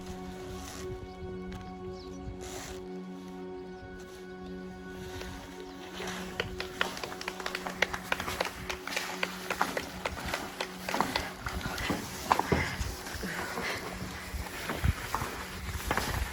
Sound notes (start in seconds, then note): 6.2 clapping